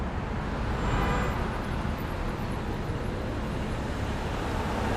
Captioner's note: traffic noise